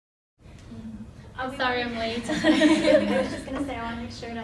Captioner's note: laughter